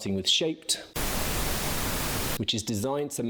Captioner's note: static blaring